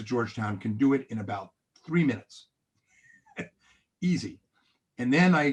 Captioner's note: chuckles